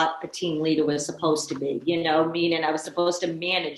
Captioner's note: none